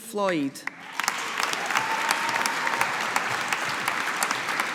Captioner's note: audience applauding